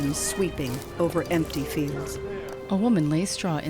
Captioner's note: fire crackling